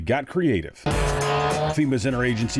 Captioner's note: chainsaw whirring